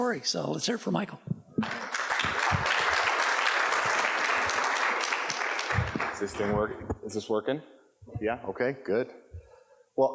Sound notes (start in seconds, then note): 1.6 audience applauds